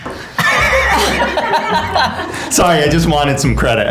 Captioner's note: laughs